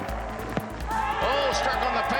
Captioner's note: audience cheering